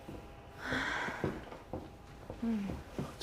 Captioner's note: Aleks exhales